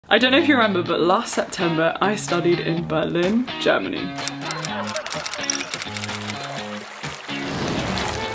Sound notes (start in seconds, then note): 4.2 typing; 4.3 upbeat music; 6.6 slide whooshes; 6.6 water burbling